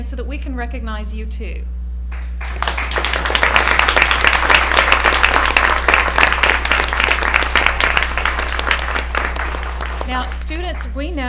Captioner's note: applause